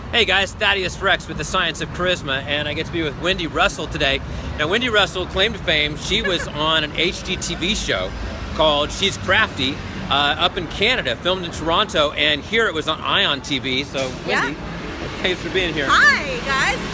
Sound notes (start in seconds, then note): 6.0 laughs